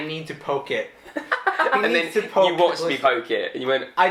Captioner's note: laughing